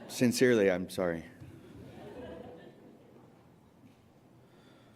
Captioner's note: laughter